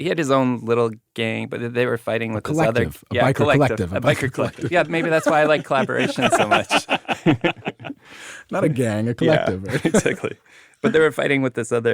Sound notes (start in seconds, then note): 7.3 all laughing